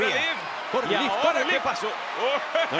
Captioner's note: laugh